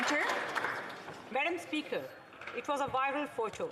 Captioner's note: applause